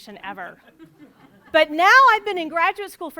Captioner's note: audience laughs